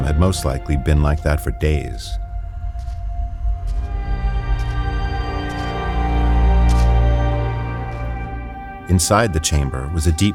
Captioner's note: footsteps crunching on gravel